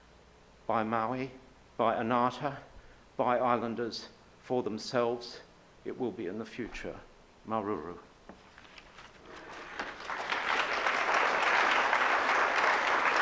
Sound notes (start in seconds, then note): 9.3 audience applauds